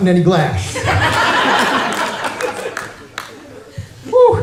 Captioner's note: laughter